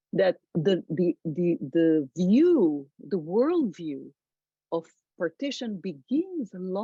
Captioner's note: none